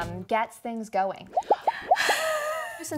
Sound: popping; laughing

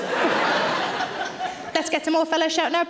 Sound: audience laughs

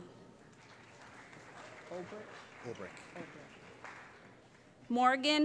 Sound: applause

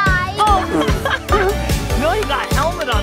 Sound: laugh

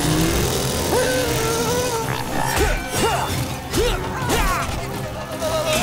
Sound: grunting

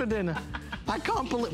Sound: laughter

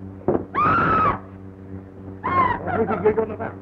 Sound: screaming

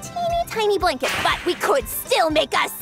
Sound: whip cracks

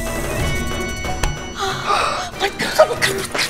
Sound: both sighing; both exclaiming

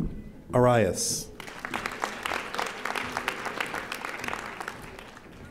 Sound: audience applauding

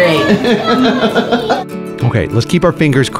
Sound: laughing

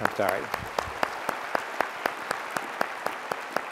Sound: applause

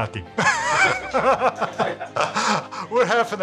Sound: laughs

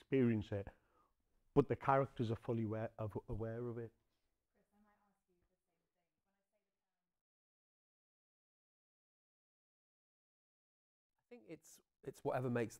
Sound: sound disappears

